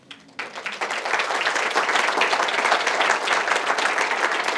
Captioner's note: audience applauding